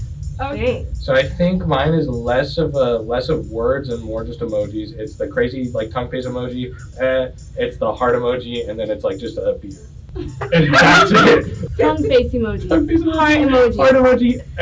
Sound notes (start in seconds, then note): 6.7 ehh